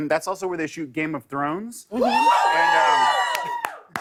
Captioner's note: audience cheering